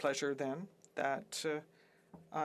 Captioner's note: speaking French